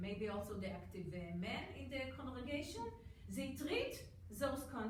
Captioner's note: none